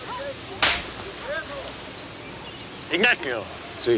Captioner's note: Ignacio spits; hand slaps